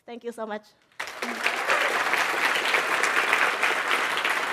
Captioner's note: applause